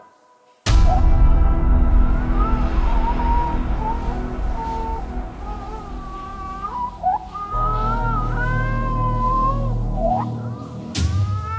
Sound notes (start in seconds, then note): 6.6 baby crying